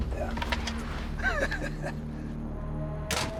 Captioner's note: chuckles